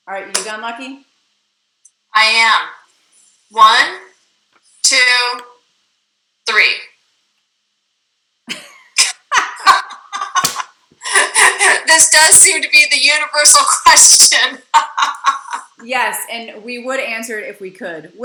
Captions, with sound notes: Alright, you done Lucky? - I am. One... Two... Three. (Both laughing) This does seem to be the universal question! (laughing) - Yes, and we would answer it if we could.